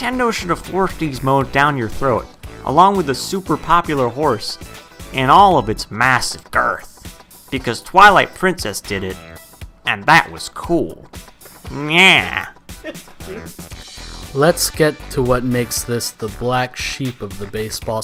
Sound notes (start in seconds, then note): 12.8 laughter